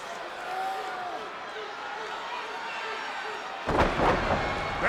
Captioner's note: spectators cheering; Windham groans; wrestlers thud